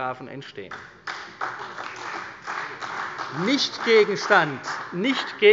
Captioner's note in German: Beifall bei der CDU